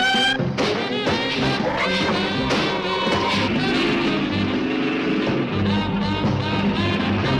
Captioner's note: suspenseful music; ground rumbling